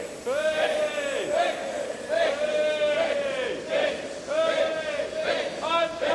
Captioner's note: chanting and cheering continues